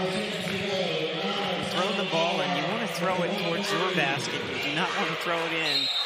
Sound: crowd noise

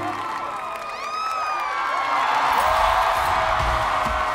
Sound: audience cheering

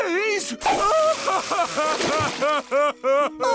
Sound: crying

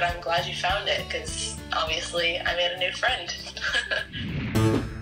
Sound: chuckles

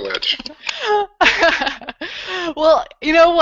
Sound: laughter

